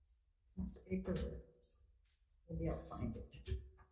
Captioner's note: co-Chair speaking faintly